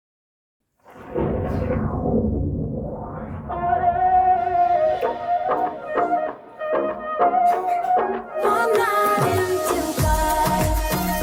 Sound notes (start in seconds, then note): 0.8 thunder claps